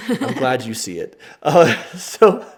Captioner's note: laughing